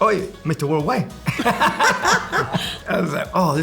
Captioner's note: laughter